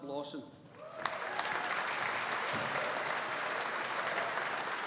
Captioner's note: audience applauding